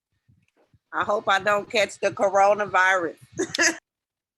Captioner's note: laughs